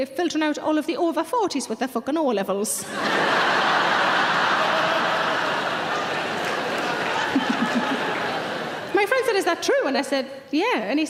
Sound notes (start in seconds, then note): 2.8 audience laughing; 5.6 audience clapping